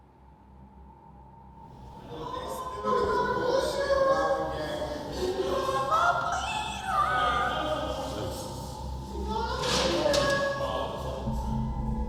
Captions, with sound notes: (yelling) >> I'm a bleeder!